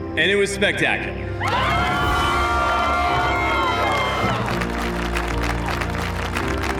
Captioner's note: cheering, applause